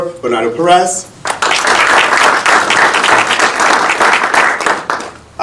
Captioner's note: audience applauding